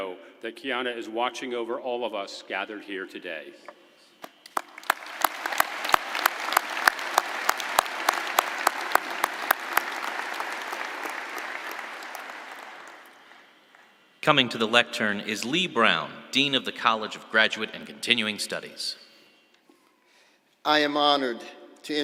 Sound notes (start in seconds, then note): 10.1 applause